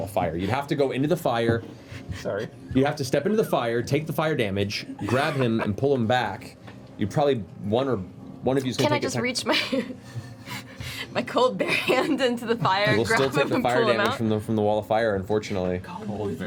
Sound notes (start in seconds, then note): 8.2 laughs